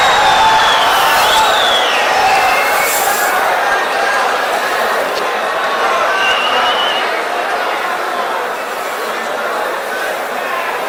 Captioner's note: wild applause and cheering for 22 seconds